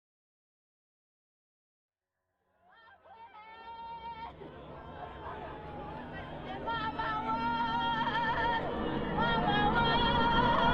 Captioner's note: sounds of wailing and mourning